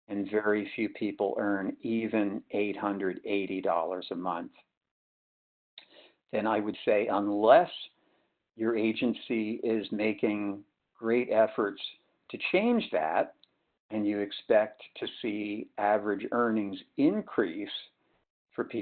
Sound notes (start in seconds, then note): none